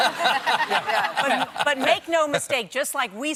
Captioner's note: laughter